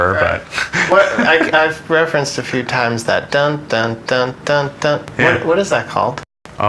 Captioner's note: humming